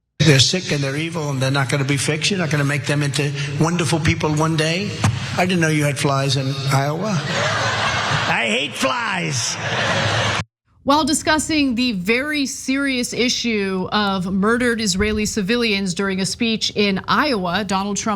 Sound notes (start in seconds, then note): 7.2 laugh; 9.8 laugh